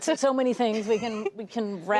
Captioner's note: laughter